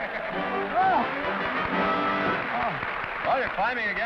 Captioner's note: applause